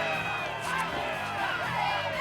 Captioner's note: shouting